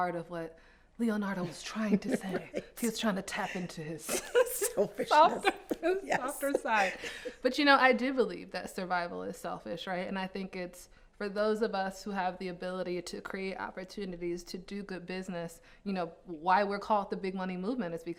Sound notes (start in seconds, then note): 4.0 laugh